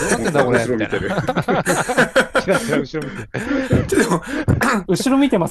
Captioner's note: laughs